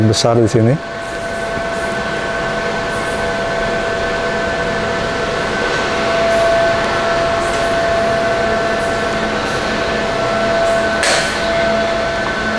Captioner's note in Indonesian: suara mesin